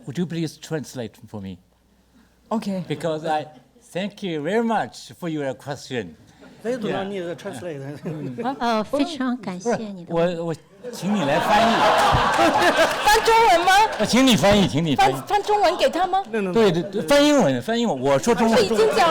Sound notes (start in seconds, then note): 8.5 speaks Mandarin; 10.9 audience laughter; 13.0 speaks Mandarin